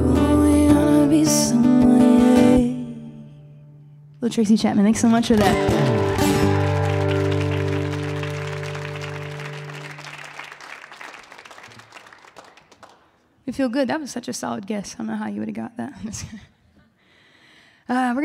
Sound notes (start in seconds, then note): 8.0 audience applauding